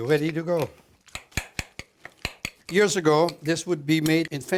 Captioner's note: stirring sounds